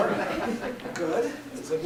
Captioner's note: laughter